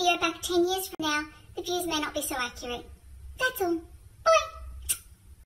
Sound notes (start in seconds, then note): 4.8 smooch